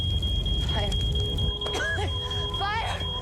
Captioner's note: coughing